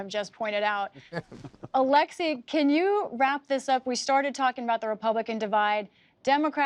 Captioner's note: laughter